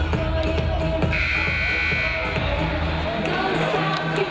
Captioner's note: buzzer buzzing